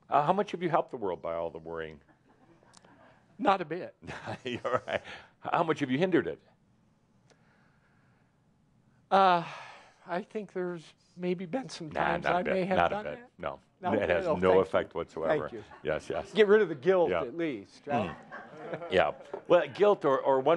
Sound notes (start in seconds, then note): 4.0 chuckling